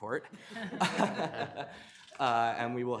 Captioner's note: attendees laughing